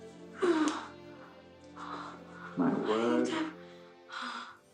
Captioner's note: Cathy moaning